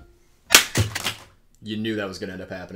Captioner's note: console thuds